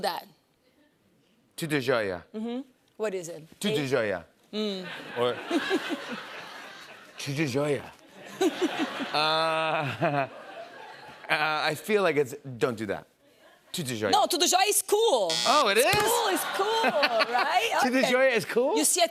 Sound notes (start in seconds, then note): 4.9 laughter; 8.3 chuckles